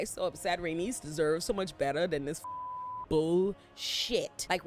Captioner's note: beep